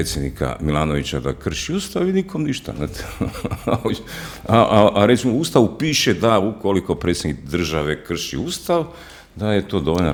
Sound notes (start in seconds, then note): 2.8 laughter